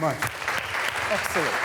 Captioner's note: students applauding